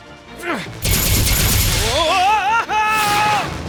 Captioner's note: wincing